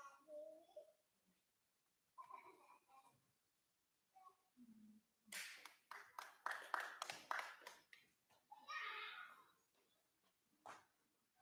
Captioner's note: applause